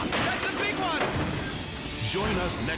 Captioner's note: cars crashing; track announcer yelling; dramatic air whoosh